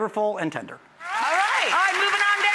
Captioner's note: audience clapping